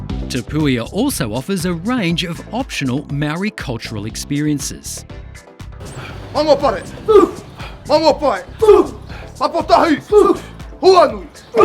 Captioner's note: shouting